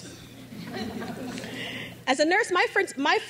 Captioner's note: crowd laughs